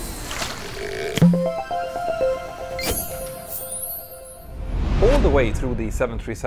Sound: playful chime

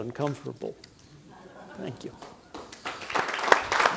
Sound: audience laughs; audience applauding

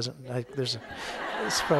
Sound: audience laughing

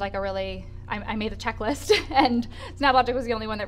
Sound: laughs

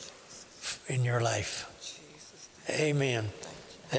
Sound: whispering

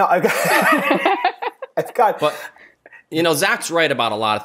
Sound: laughter

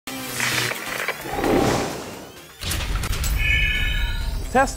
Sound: sound Effects

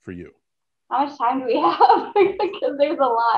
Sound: laughter

